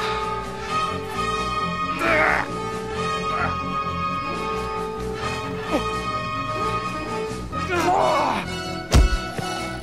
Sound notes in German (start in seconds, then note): 1.9 Angestrengte Laute